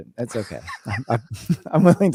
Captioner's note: laughing